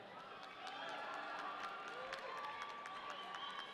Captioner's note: audience cheering